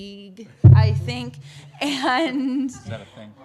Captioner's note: laughter